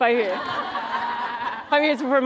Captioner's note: laughter